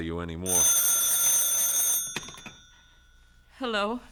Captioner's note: telephone rings